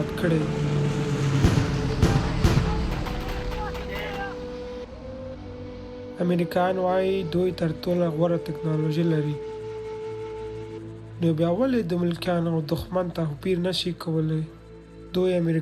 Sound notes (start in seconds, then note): 0.0 plane engine roaring; 1.3 bombs exploding; 6.1 speaking foreign language